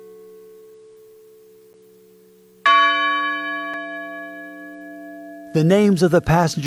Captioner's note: bell rings